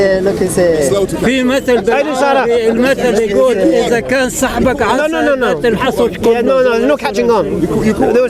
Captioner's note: speaks in Arabic